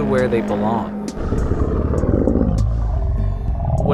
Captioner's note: growling